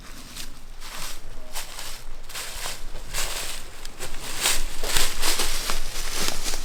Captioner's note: leaves rustling; footsteps pattering